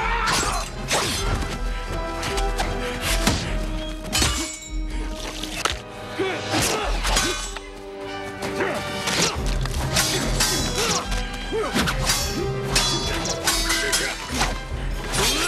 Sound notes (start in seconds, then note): 4.0 clanging; 10.0 both grunting